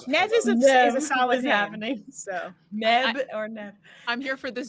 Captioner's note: laughs